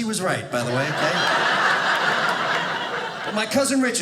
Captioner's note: audience laughing